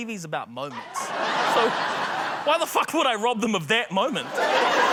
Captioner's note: laughter